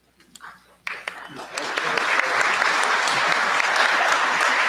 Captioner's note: applause